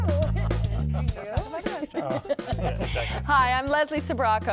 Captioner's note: laughter